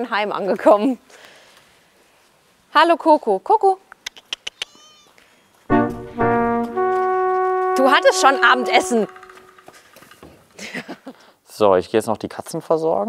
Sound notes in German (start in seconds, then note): 4.2 Locklaute; 5.7 Spannungsvolle Musik; 7.8 laut